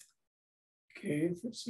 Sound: pause

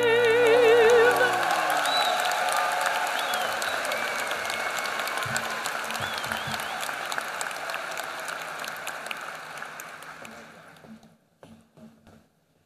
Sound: applause

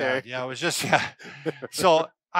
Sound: laughs

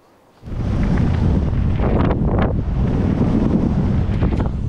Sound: wind whistling

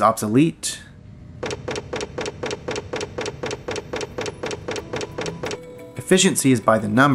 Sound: mri thumping

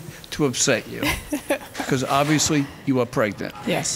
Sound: laughing

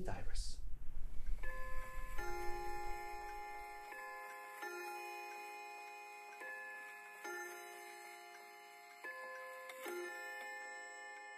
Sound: clock chimes noon

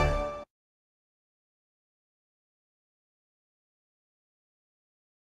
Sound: upbeat orchestral music; silence

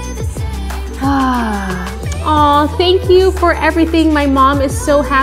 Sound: sighs

